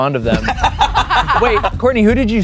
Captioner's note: everyone laughs